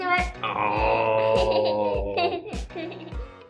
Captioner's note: kids laughing; electronic music